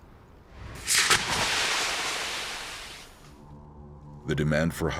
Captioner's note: brand sizzling